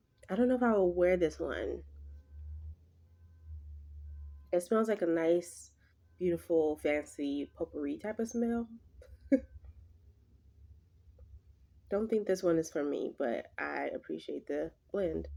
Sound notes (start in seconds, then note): 9.1 laughs